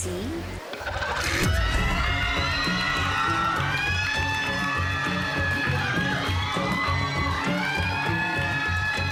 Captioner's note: tense music playing; applause, cheering